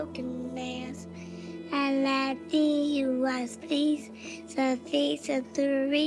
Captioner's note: speaking in Arabic